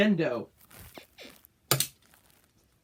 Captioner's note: bed squeaks